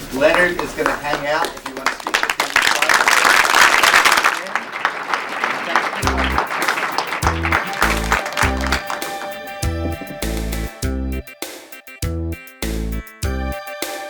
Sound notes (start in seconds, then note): 2.8 applause; 8.4 closing music